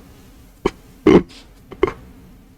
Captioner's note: laughs to myself